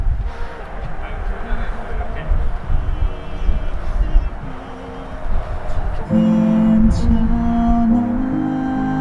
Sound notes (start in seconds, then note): 3.0 patting